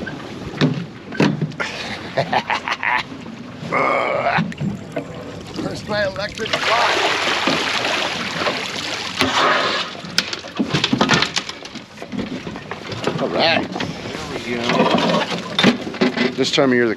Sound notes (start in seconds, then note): 0.1 squeaking; 1.6 chuckling; 3.6 groaning; 6.2 splashing; 9.8 clanking